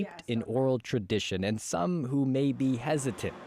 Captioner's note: speaking Foreign Language